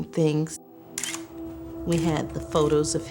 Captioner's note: camera clicks